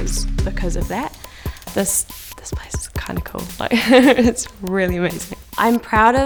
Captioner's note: laughs